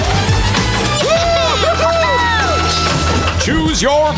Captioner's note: cheering